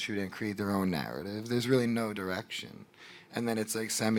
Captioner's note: none